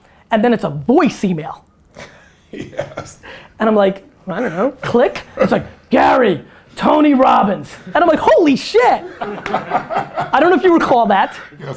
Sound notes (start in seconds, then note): 1.9 laughs; 8.9 group laughter